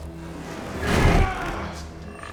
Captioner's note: grunting with effort